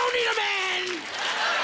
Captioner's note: laughter